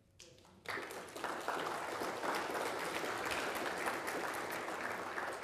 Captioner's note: people applauding